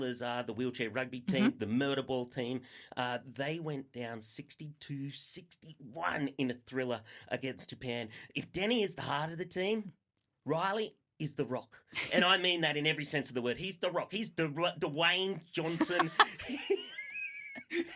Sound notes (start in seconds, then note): 15.7 laughter